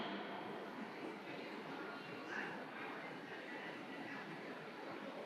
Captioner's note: distant chattering